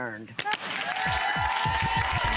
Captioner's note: audience applauds; upbeat instrumental music